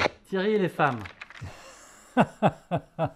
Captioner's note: laughs